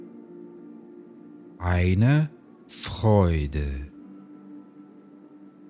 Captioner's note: german